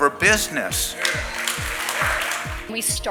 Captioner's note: audience applauding